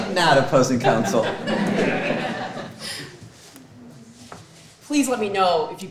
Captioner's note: audience laughing